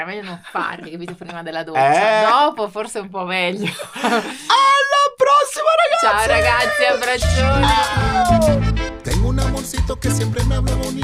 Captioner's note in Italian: risate